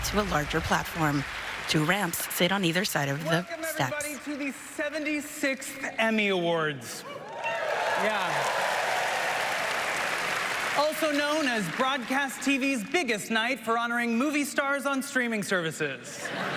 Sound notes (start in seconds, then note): 1.2 applause; 14.2 applause